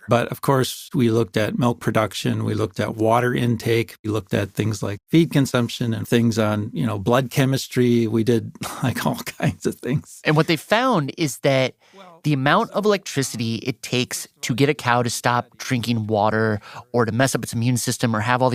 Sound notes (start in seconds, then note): 10.2 laughs